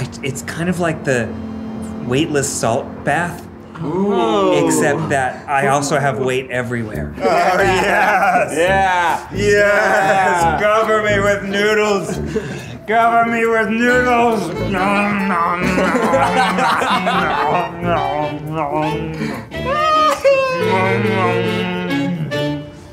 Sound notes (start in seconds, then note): 14.9 chomping; 15.9 Ned chomping; 15.9 Zach laughing